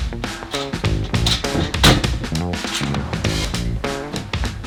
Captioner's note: upbeat music; ramp banging